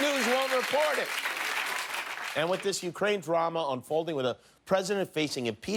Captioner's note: cheers and applause